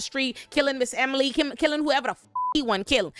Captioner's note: beep